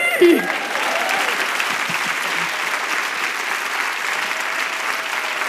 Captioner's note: applause